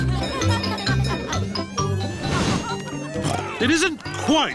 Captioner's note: cheerful jingling; oinks